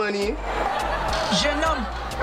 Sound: laughs

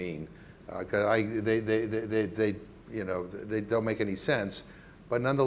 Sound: stammering

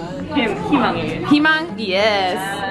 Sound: speaks Korean

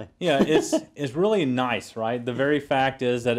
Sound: laugh

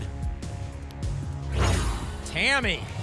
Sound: whoosh

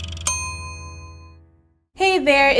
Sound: meter dinging

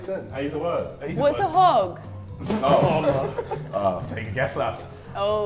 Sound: Sidemen chuckle

